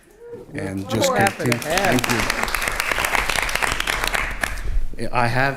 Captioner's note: attendees cheering and applauding